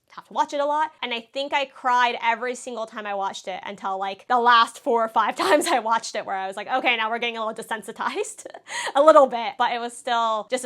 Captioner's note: laughs